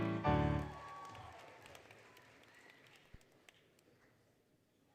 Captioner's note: applause, Cheering, Music; applause, Cheering